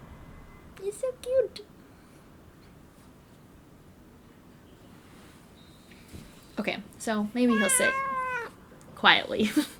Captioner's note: cat meowing